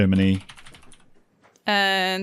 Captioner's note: typing noises